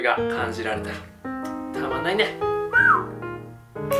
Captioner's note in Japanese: 口笛